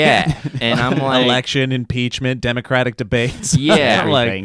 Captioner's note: laughs; laughs